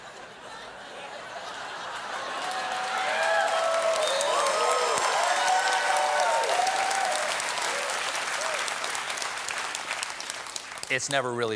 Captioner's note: laughter; cheers and applause